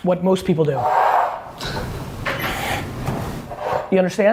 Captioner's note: scraping